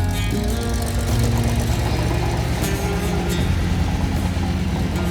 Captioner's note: machine whirring